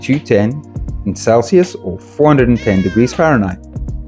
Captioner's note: meoooow